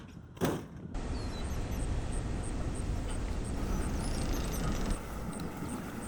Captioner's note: boat engines revving